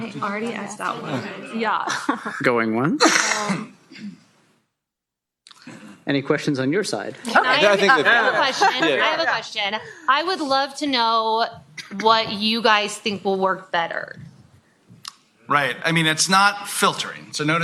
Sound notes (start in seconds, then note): 1.8 chuckles